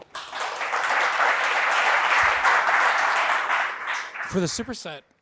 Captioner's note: audience applauding